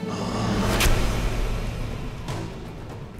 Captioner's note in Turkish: Ok saplanma sesi